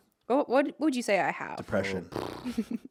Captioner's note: blowing raspberries; laughing